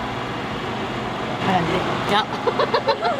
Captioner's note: laughter